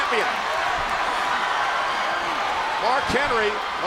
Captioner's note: crowd roaring